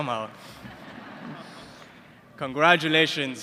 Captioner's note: laughter